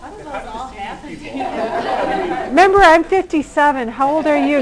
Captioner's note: laughter